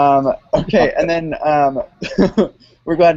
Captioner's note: chuckles